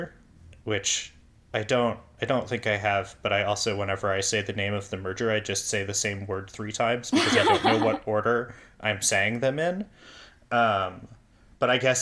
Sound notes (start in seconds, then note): 7.1 laughs